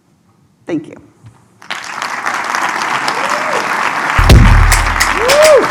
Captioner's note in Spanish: Aplausos